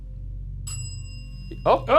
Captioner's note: bell ringing